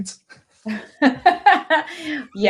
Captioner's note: laughter